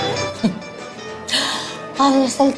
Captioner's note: laughs